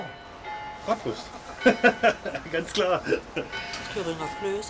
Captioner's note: laughs